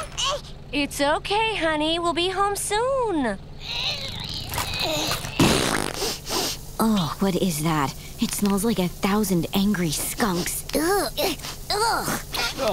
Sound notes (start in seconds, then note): 3.6 pooping, sniffing; 3.6 grunting; 11.6 groaning